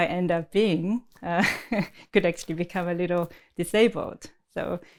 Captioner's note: laughs